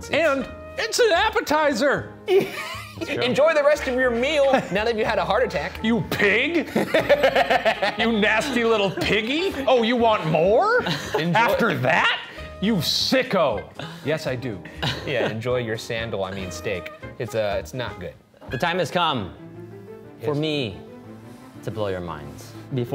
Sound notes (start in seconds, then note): 2.3 laughing; 6.5 laughing